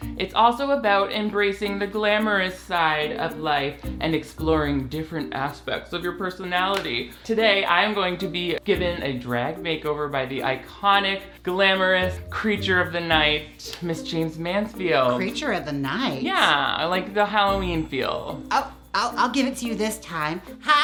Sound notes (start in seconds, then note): none